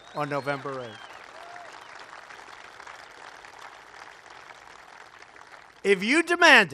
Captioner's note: applause